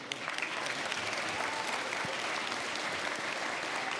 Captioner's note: applause